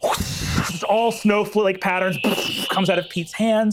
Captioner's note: imitates wind whooshing; imitates spell whizzing